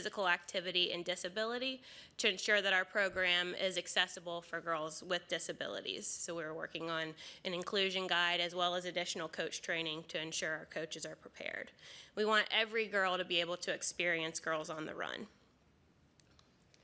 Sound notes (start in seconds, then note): none